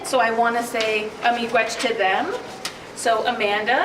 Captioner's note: speaking in a foreign language